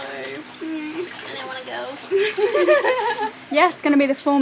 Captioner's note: both laughing